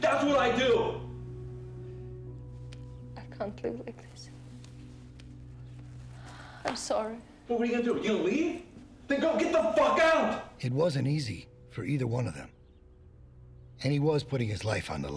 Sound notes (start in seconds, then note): 2.7 voice breaking